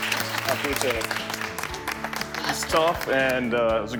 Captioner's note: clapping hands